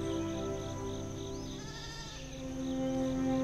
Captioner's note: sheep bleats